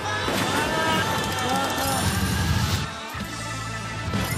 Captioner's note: man groaning